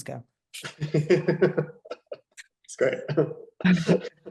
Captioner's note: laughing